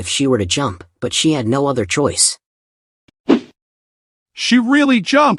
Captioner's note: sound effect